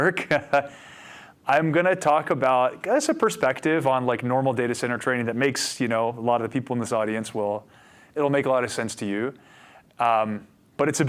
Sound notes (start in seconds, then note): 0.8 laughing